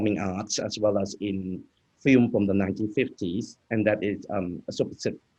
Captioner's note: speaking in foreign language